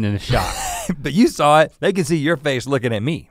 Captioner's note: laughs